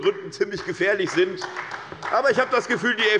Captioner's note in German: Beifall bei der SPD